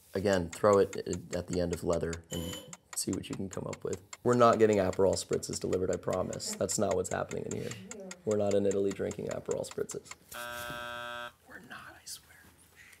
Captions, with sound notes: Again, throw it at the end of leather and see what you can come up with. We're not getting Aperol Spritzes delivered, I promise. That's not what's happening in here. We're not in Italy drinking Aperol Spritzes. (buzzing) We're not, I swear.